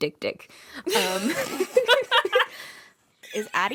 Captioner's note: laughter